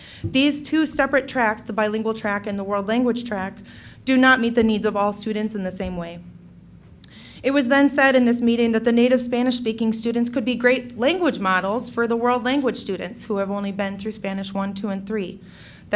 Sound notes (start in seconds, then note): none